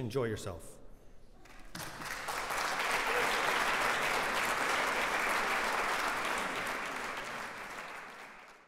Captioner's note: applause